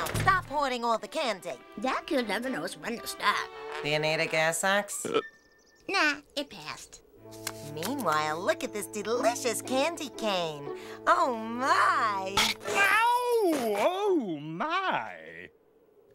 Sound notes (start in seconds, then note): 5.0 burps; 12.4 screams